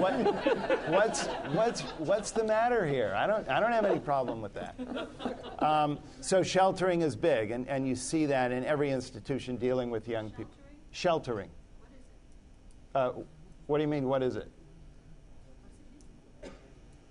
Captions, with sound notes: personality change over these last 40 years or there’s a whole lot of selective memory going on – (laughter) – because I remember the ’60s – at least some of the ’60s – (laughter) – and I don’t think that “work ethic” and “respectful” were at the top of most peoples’ to-do list. I